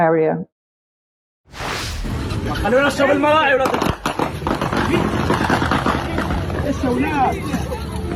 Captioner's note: speaking in foreign language